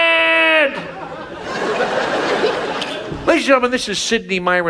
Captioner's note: audience laughs